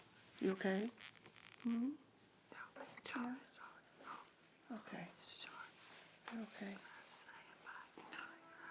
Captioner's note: whispering